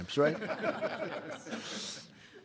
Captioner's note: laughter